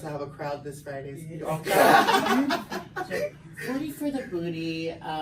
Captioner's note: laughs